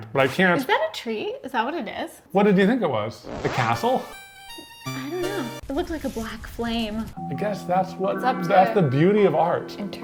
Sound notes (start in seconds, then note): 3.6 whimsical music; 5.5 fire crackles